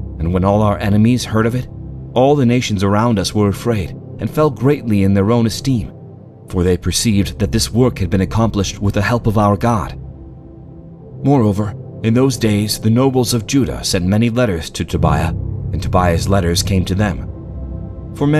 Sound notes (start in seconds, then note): none